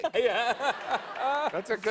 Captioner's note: laughter